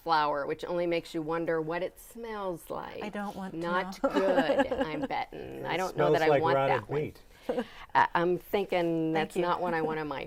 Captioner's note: laughing